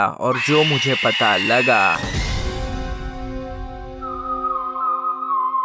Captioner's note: whistle